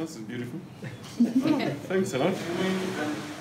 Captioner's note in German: Lachen